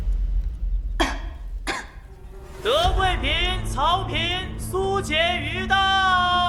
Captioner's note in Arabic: سعال